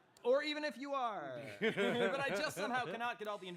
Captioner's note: others chuckling